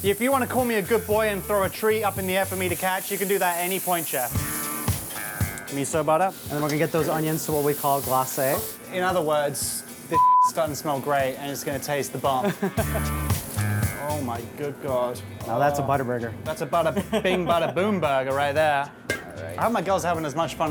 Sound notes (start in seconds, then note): 10.1 beep; 12.2 chef laughs